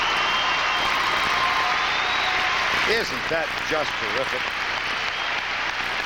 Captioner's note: applause